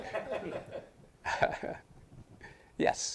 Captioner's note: audience laughing